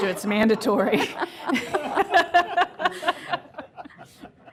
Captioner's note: laughter